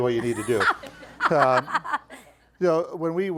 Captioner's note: laughing